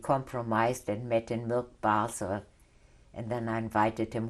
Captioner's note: non-english